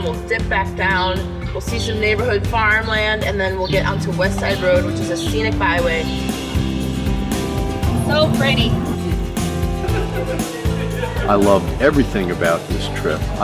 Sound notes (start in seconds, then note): 6.4 upbeat music; 9.6 laughing